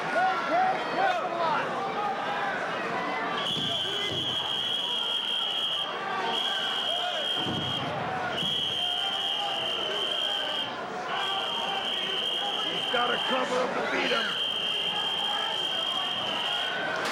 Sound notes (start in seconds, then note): 3.4 whistling; 8.3 whistling; 14.0 whistling